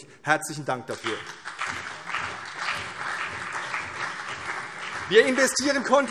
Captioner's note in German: Beifall CDU und BÜNDNIS 90/DIE GRÜNEN